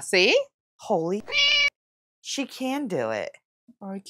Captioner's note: meow